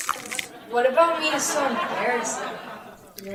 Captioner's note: audience laughing